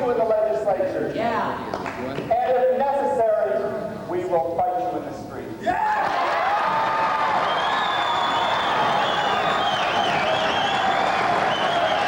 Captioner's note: rousing applause